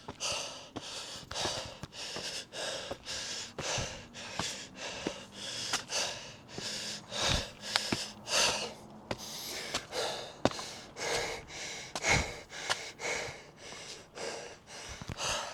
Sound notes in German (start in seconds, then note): 0.0 hecheln; 0.0 japst; 0.0 seufzt; 4.0 schnauben; 7.5 hecheln; 9.1 japst; 9.1 seufzt; 15.3 hecheln